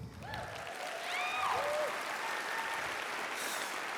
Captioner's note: applause